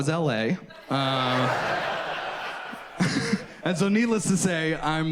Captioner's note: audience laughs